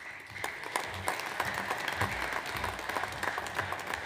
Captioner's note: audience applauds